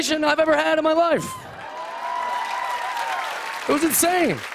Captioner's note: cheers and applause